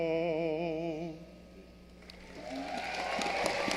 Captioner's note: applause